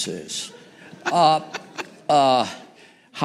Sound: laughter

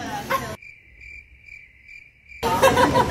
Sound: crickets chirping; laughing

